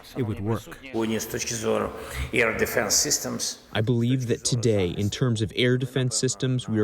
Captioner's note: through translator